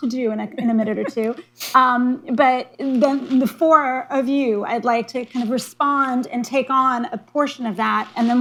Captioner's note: laughter